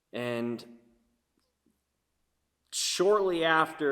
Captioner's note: none